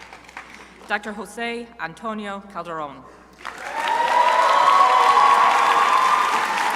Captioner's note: crowd applauding